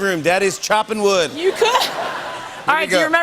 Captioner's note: laughter